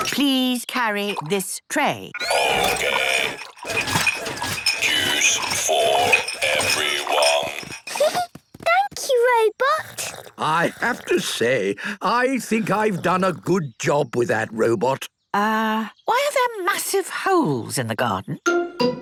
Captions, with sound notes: - Please carry this tray. - Okay. (rattling) Juice... for... everyone. (giggling) - Thank you, Robot. - I have to say, I think I've done a good job with that robot. - Uh, why are there massive holes in the garden?